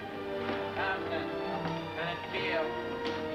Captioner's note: indistinct chatter